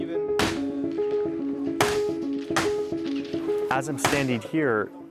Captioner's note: gun fires